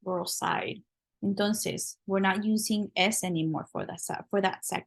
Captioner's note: spanish